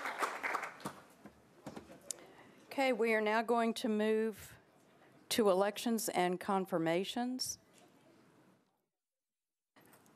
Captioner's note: applause